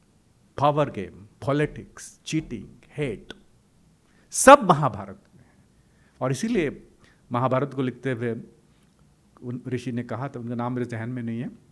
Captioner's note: hindi